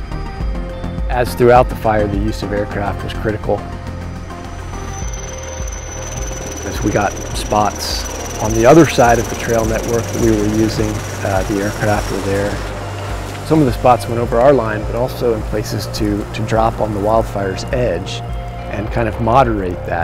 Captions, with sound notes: As throughout the fire, the use of aircraft was critical. (Helicopter) Once we got spots on the other side of the trail network that we were using, the aircraft were there. In some of the spots went over our line, but also in places to drop on the wildfire's edge and kind of moderate that